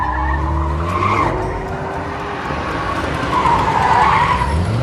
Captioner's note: tires screeching; siren blaring